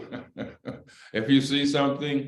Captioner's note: laughter